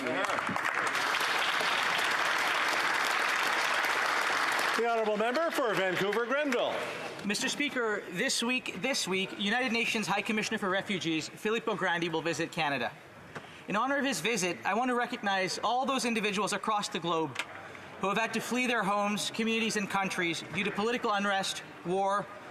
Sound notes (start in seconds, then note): 5.4 applause